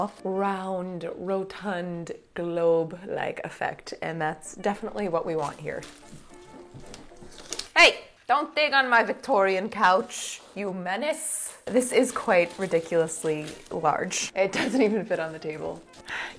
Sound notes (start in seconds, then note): 5.1 fabric scratching